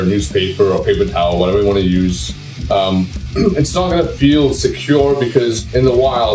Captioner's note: clears throat